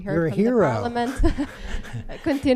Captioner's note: laughter